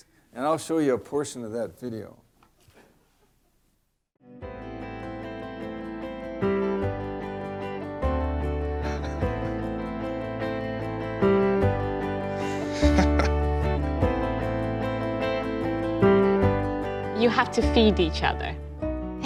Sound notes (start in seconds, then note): 9.0 chuckles; 12.5 laughs